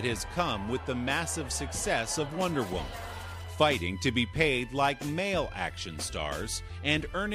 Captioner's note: cheers